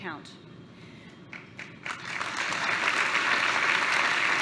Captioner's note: applause